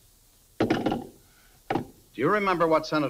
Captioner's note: phone clatters